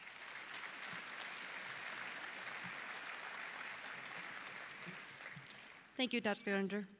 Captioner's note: applause